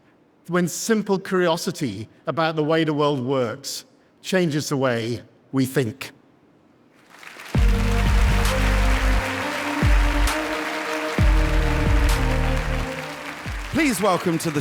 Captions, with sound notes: when simple curiosity about the way the world works changes the way we think. (audience applauding) (upbeat music) - Please welcome to the stage,